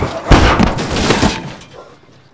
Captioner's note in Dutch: knal